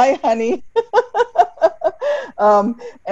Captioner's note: laughs